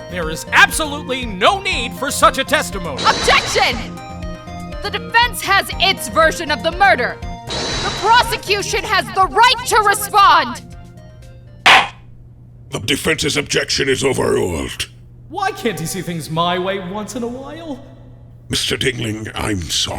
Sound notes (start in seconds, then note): 11.7 gavel slams!